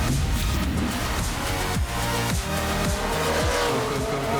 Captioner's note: techno music playing; revving engines